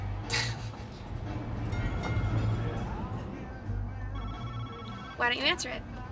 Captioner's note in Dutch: telefoon gaat